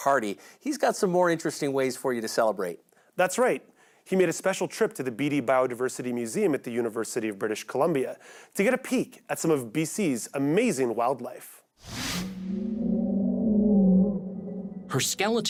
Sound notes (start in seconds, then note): 12.3 underwater whale song